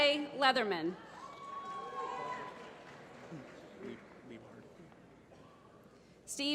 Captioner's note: applause